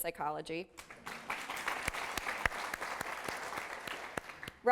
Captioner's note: applause